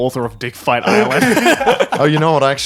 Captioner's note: laughing